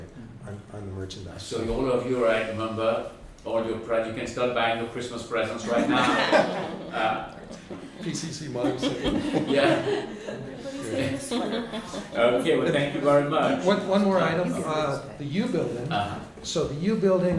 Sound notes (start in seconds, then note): 5.6 laughter